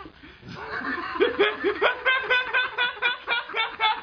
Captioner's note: laughing